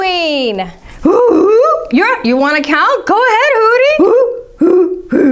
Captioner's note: hooty hoots